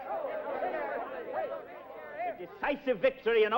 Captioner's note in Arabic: ثرثرة متحمسة